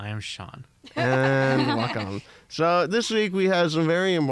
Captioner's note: laughter